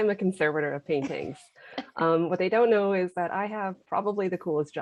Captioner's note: laughter